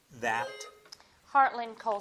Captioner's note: bell dings